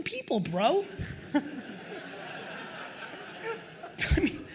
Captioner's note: attendees laugh